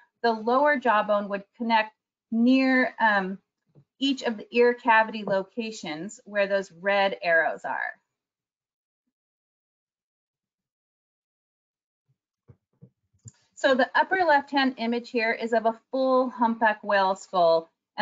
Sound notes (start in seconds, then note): none